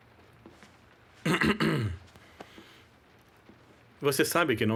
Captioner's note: clears throat